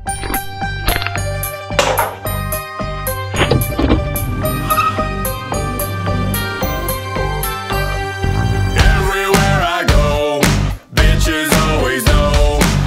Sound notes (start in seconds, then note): 0.1 person drinking; 0.8 can opening; 1.7 can falling; 3.3 car revving; 4.0 gears clicking; 5.3 tires squealing; 6.3 upbeat music